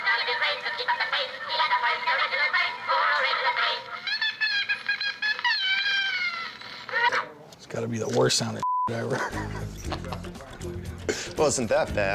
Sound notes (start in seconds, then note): 3.5 high-pitched squeal; 9.0 laughs